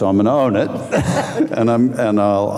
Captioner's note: laughing